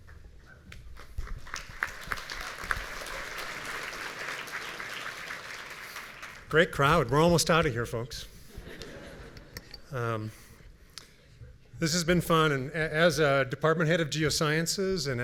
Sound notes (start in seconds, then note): 1.2 audience applauding; 8.5 audience chuckling